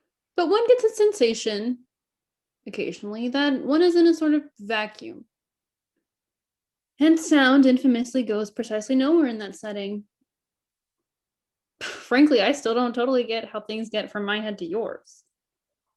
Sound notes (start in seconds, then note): none